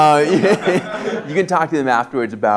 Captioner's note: laughs